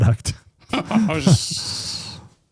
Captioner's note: laughing